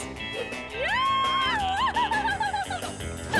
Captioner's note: laughing